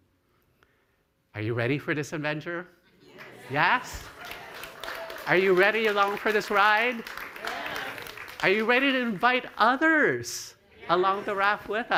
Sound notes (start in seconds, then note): 3.8 clapping